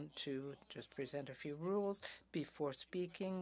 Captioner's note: speaking French